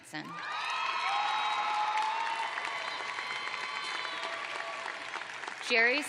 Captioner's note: cheers and applause